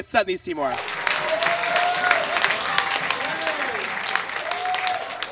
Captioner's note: audience claps and cheers